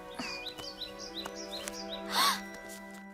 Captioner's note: chirping; gasping